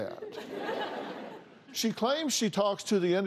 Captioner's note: laughter